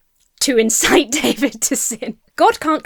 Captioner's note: laughs